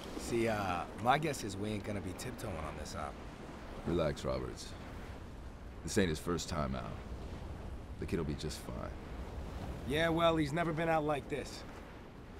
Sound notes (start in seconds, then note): none